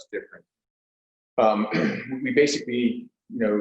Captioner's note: clears throat